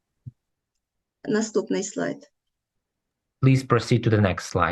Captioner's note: foreign Language